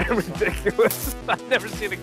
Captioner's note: laughing